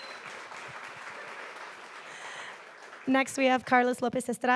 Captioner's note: audience applauding